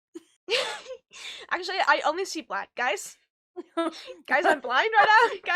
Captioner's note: laughs